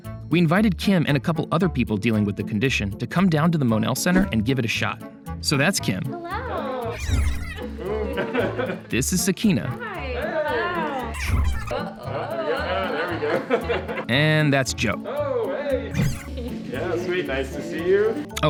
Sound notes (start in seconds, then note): 7.6 laughter